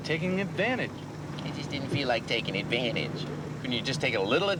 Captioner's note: imitates ted